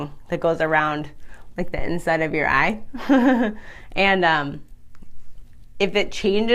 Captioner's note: laughs